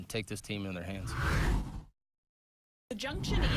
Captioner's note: air whooshes